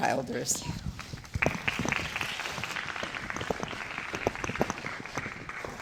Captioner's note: applause